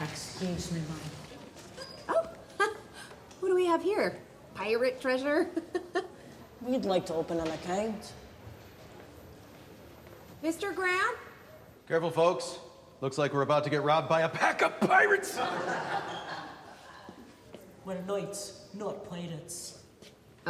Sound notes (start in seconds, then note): 5.5 laughs; 16.1 people laughing